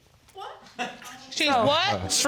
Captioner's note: man chuckles